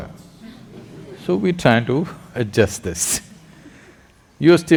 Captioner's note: laughter; laughs